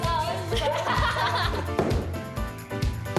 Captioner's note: laughs